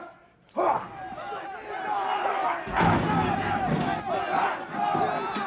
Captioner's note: group scuffling and grunting